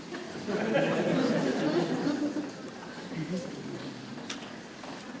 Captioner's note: audience laughing